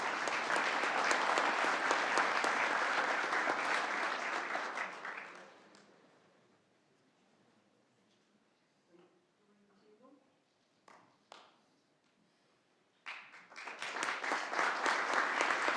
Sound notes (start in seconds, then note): 4.1 applause